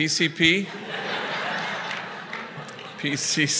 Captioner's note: laughter